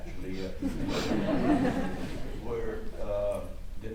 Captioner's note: audience chuckles